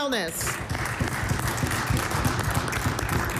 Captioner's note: applause